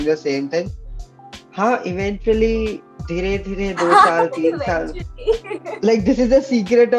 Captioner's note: laughs